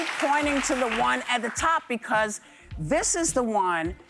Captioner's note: applause